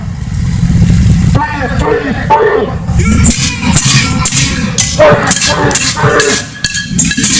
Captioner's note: pots and pans banging